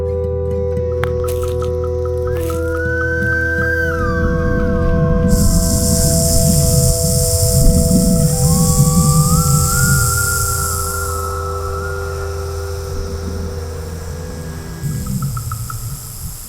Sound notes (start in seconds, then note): 5.6 rattlesnake tail shaking